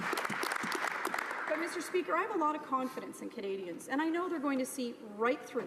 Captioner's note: applause